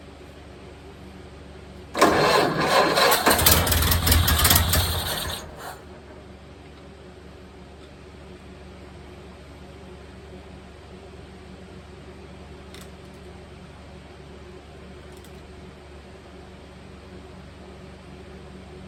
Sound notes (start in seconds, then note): 1.9 engine cranking; 1.9 engine dies; 1.9 engine sputtering/idling